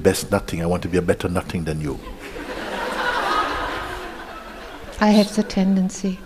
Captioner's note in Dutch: gelach